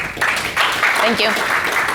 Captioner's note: audience clapping